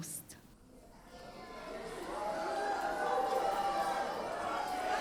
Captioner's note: audience cheers